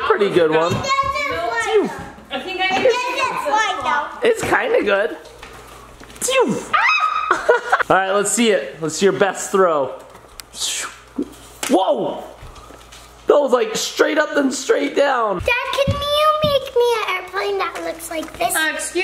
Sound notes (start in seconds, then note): 6.6 shouts; 7.2 laughs